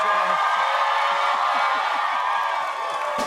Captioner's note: cheers and applause